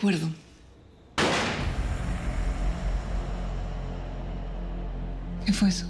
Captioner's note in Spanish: Disparo